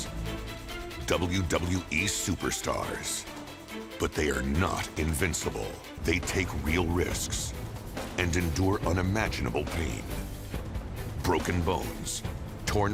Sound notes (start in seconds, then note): none